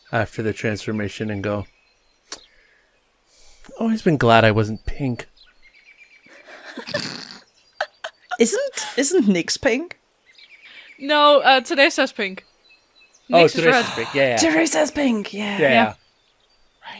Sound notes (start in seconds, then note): 6.3 laughter